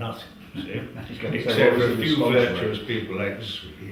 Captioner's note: laugh